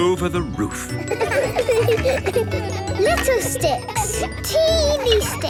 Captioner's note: laughter